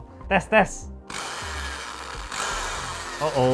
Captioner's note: sad drill sounds